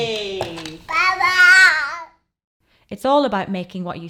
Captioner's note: monkey impression; babbles